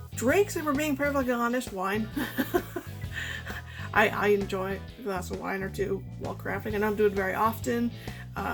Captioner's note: laughs